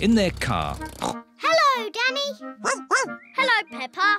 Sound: snorts; barks

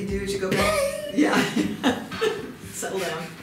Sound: laughter

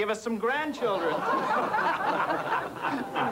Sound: laughter

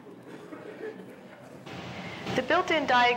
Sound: laughter

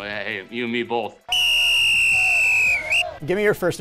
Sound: whistle blowing

